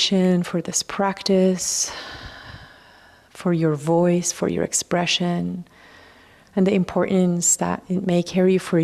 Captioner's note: sighs and gasps